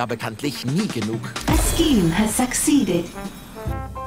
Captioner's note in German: Computerstimme auf Englisch